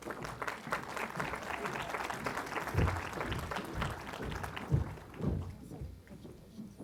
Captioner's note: applause